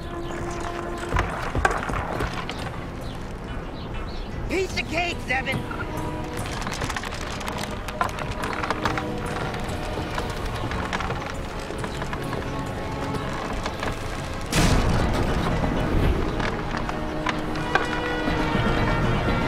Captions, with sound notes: - Piece of cake, Zzeben. (wood creaking) (footsteps) (wood breaking) (wood creaking)